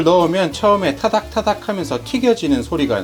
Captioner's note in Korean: 타닥타닥